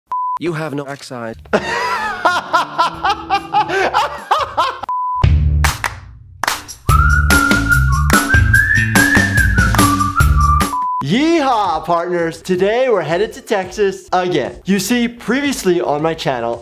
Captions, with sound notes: (beep) - You have no backside. (laughing) (beep) (upbeat instrumental music) - Yeehaw, partners. Today we're headed to Texas, again. You see, previously on my channel